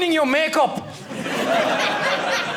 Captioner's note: audience laughing